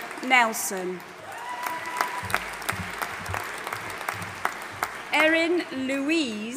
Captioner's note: audience applauding and cheering